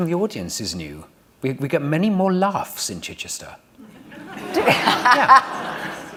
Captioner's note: laughter